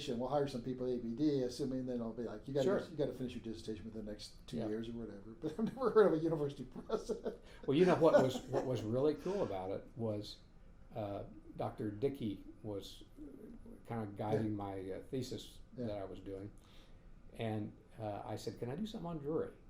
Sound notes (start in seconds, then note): 7.6 laughing